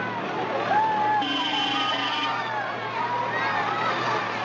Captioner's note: honk